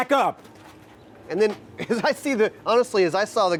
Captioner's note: laughs